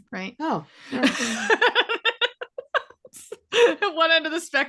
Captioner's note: laughing